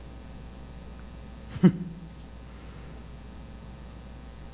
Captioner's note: chuckles